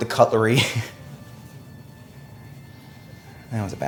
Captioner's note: Justin laughing